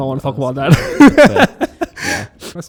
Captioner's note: laughing